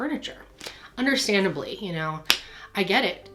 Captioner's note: hands smacking